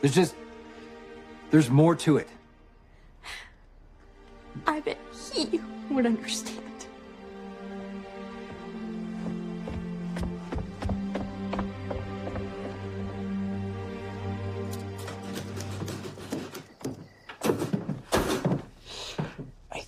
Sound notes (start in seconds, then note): 10.8 stomping upstairs; 14.9 typing